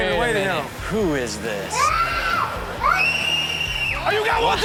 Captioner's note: child screams